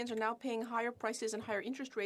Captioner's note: speaking French